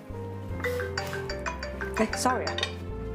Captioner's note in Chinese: 電話鈴聲